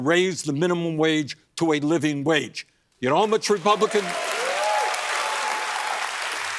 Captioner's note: cheers and applause